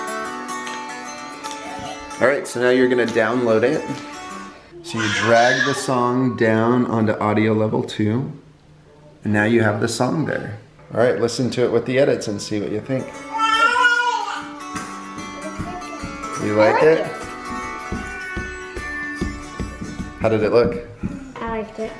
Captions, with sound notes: (snappy music) - Alright, so now you're going to download it. So you drag the song down on to audio level two. Now you have the song there. Alright listen to it with the edits and see what you think. (baby yelling) - You like it? (feet stomping) How did it look?